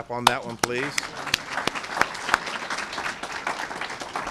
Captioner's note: applause